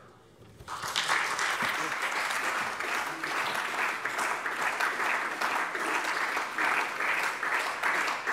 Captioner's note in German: Beifall SPD